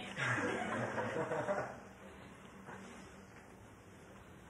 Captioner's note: laughter